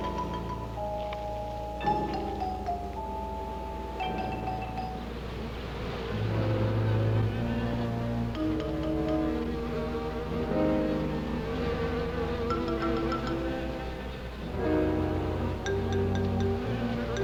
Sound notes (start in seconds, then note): 5.5 buzzing